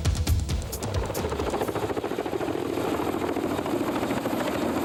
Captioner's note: helicopter Whirring